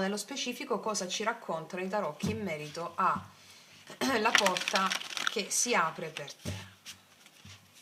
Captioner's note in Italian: schiarire la voce